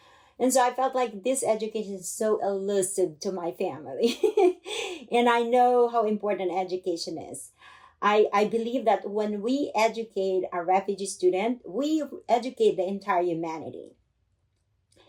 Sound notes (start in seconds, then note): 4.0 laughter